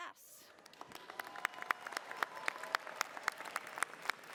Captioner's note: cheering